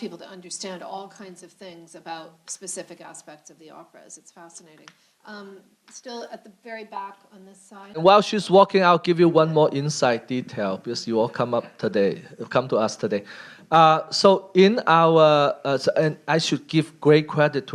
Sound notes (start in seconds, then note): none